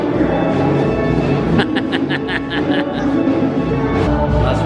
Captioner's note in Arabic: أبي يضحك